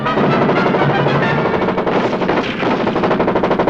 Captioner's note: rapid gunfires